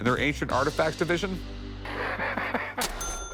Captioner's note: laughs